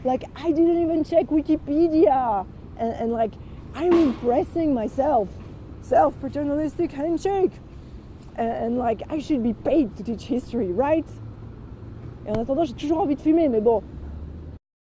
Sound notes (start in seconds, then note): 12.0 in french